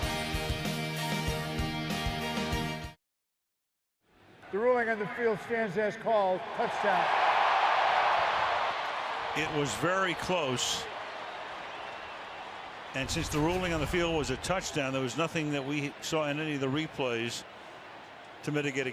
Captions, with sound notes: [upbeat music] The ruling on the field stands as called, touchdown. [cheering] It was very close. And since the ruling on the field was a touchdown, there was nothing that we saw in any of the replays